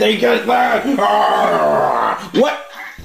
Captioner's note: pirate sound